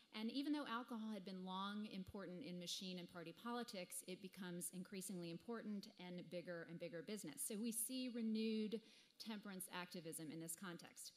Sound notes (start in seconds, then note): none